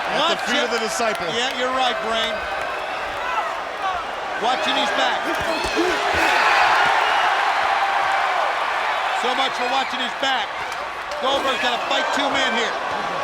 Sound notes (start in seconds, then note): 5.9 crowd cheering